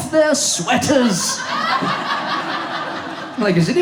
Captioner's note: audience laughs